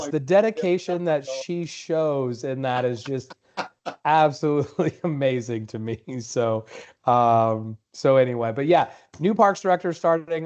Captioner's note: laughter